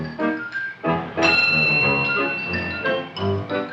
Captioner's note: light chimes